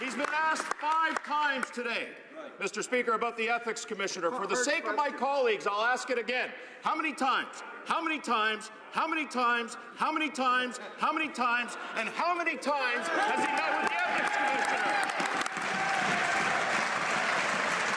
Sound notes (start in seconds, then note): 2.5 some Applause